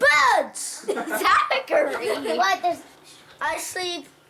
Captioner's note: giggling